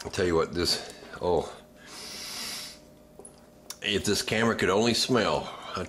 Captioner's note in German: tiefes Atmen